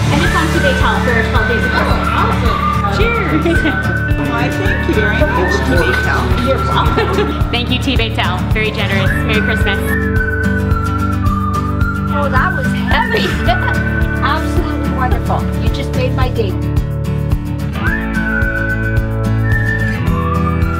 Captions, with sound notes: - And it's on Tbaytel for 12 Days of Christmas. - Oh, awesome! - Cheers! - Why thank you very much Tbaytel. - Thank you Tbaytel, very generous. Merry Christmas. (upbeat music) - Oh, that was heavy. (laughing) Absolutely wonderful, you just made my day. (upbeat music)